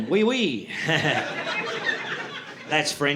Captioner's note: audience laughing